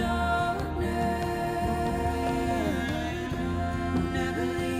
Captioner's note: echoes